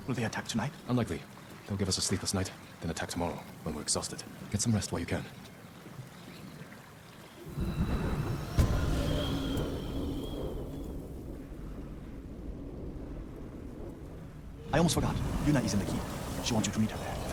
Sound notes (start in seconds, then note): 10.4 whistling